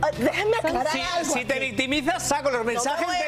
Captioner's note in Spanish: risas